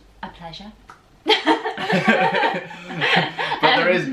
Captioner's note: laughter